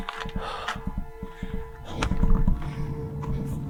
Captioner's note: panting